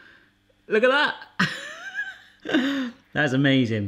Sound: laughs

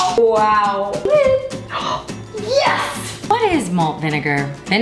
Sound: gasps

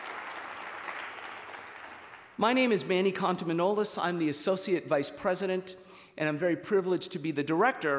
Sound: cheers and applause

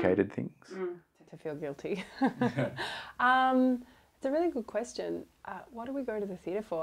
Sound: laughs

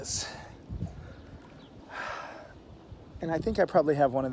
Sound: sighs

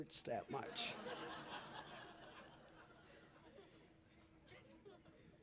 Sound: laughter

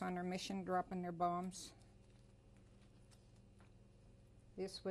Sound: pauses for 3 seconds

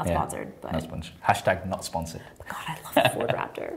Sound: laughs

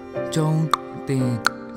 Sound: tongue Click

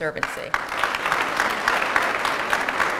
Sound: applause

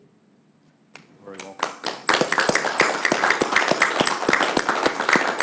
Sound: group applauding

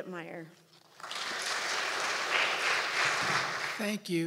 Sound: audience applauding

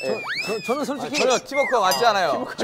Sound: stutter

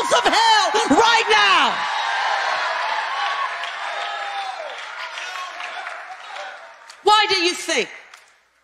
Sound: congregation chatter

